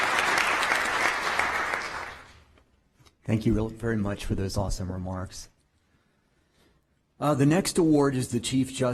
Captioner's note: applause